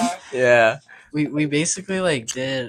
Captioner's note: laughing